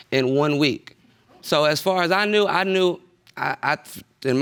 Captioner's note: stammers